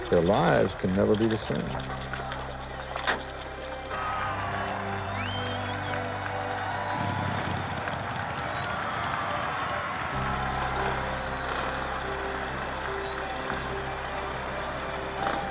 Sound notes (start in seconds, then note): 3.9 crowd cheering and applauding; 6.8 motorcycle engines humming; 10.2 cheering